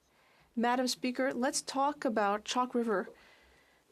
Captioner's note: speaking French